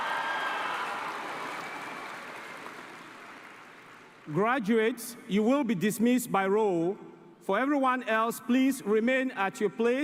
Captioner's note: cheering and applause